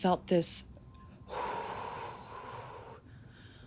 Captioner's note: exhale